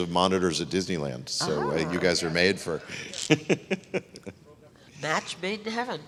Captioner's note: laughs